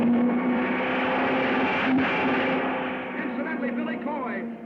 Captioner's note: car screeching